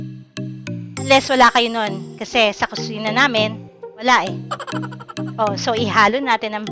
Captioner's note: laughing